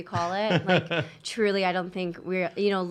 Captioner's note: laughs